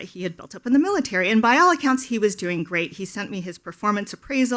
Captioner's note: none